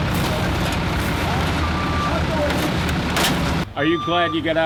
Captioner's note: sound of trash being collected